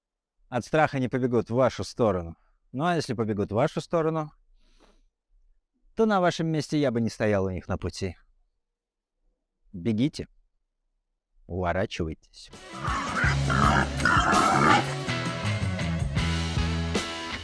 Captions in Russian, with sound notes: от страха не побегут в вашу сторону. Но если побегут вашу сторону, то на вашем месте я бы не стоял у них на пути. Бегите или уворачивайтесь [хрюканье кабана]